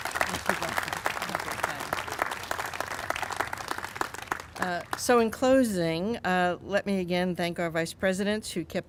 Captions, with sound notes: [ APPLAUSE ] >> SO IN CLOSING, LET ME AGAIN THANK OUR VICE PRESIDENT